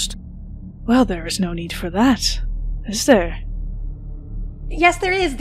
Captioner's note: as MYSTERIOUS VOICE